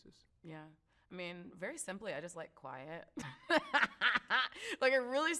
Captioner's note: laughs